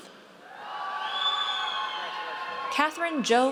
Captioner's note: audience cheers